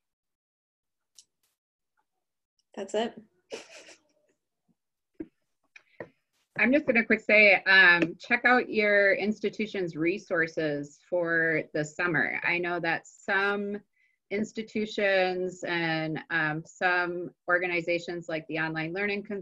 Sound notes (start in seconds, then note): 3.5 laughing